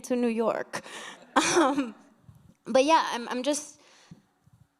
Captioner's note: chuckles